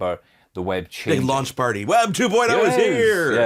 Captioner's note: chuckles